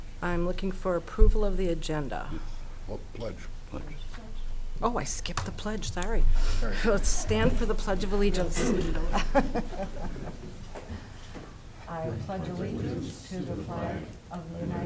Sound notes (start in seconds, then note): 8.5 chuckling